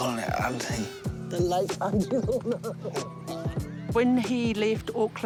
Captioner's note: chuckles